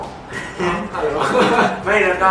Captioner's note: laughs